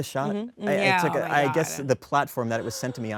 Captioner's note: Kristen gasps